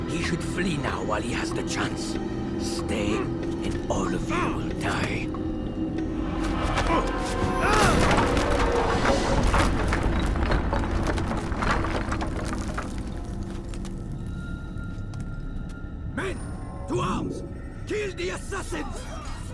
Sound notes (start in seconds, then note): 7.5 grunt